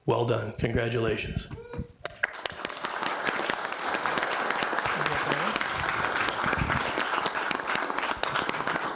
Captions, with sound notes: Well done, congratulations. (trustees and audience applaud)